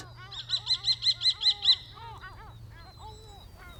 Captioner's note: birds twittering